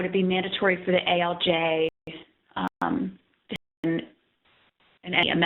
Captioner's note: audio skips